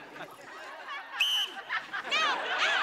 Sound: whistling

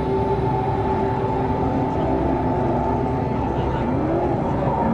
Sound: engine roaring

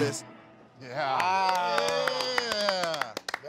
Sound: cheers and applauses

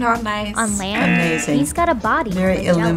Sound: buzzer rings

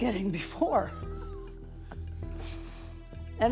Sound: both chuckling

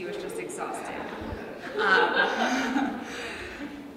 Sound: laughs

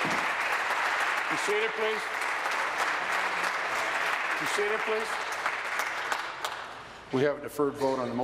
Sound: applause

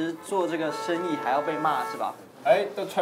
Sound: horn

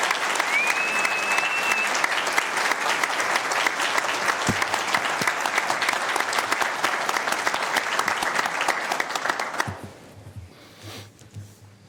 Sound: applause

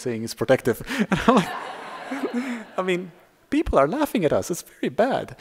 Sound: laughter

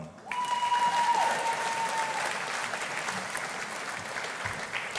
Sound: audience applauding

